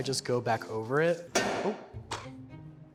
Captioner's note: bang